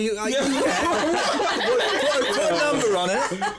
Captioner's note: laughter